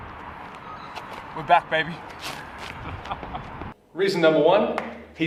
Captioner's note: laughs